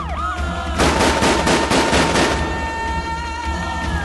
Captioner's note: gun Firing